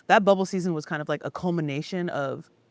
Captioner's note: none